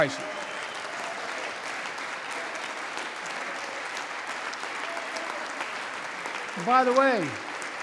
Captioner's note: applause